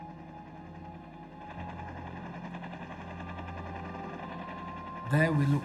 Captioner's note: helicopter juddering